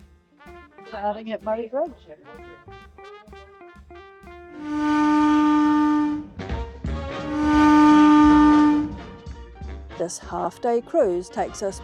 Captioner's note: steam horn toot